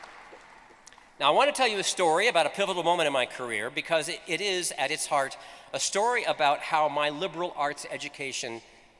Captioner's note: applause